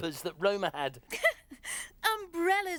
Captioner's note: chuckles; laughs